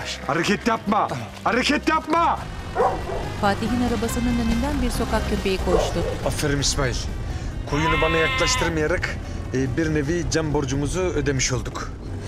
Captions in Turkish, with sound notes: Hareket yapma! Hareket yapma! (Köpek havlama sesi) Aferin İsmail, koyunu bana yaklaştırmayarak... ...bir nevi can borcumuzu ödemiş olduk.